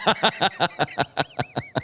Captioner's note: laughter